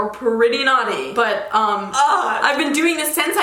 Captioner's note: groans